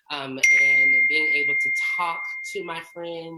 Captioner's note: beeps